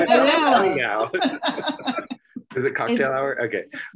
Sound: laughing

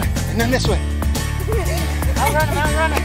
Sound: laughing

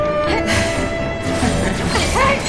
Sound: eerie Laughter

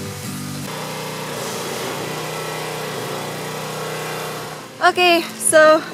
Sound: construction noises

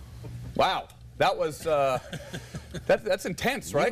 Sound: laughter

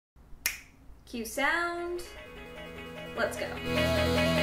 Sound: snap

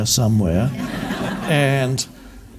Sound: audience laughs

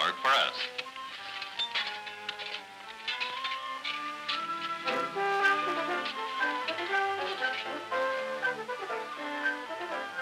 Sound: banging

